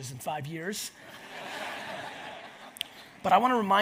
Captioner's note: audience laughs